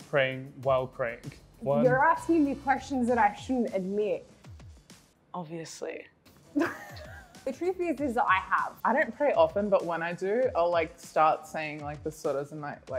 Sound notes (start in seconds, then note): 6.6 laughs